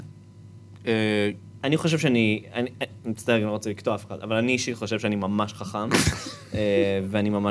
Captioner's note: snickers